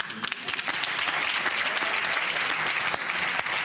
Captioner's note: cheers and applause